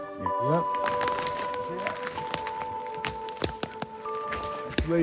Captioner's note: branches cracking